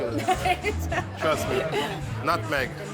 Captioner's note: laughs